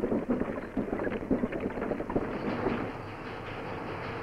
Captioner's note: sound of ropeways